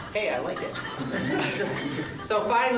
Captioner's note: laughs